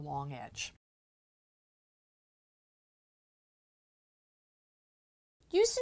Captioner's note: no Sound Present